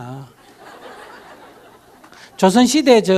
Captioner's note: audience laughter